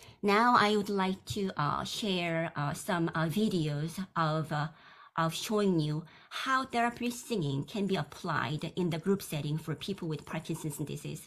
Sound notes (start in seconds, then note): none